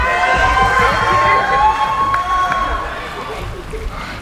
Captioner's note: cheering